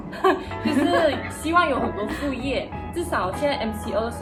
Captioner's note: haha